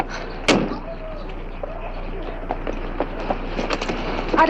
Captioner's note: door slamming